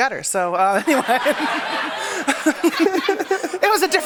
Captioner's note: laughter